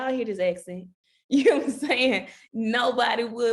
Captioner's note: chuckling